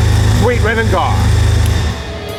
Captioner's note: engine shut off